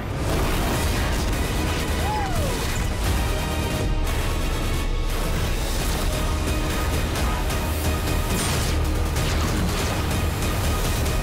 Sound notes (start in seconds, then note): 0.0 engines roaring; 3.1 lasers blasting; 6.2 intense music; 8.2 lasers blasting